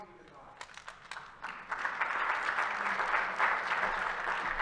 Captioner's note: attendees applauding